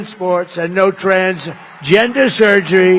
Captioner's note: applause